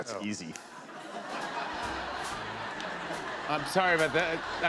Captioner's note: laughter